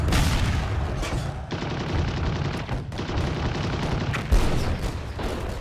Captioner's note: artillery firing; machine guns firing